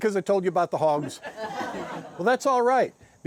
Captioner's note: guests laughing